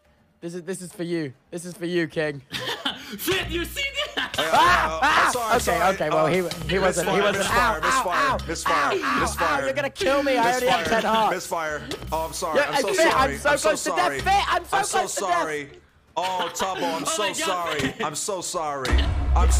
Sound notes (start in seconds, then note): 3.3 laughs; 16.1 laughs